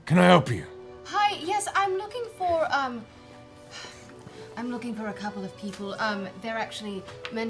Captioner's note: sighs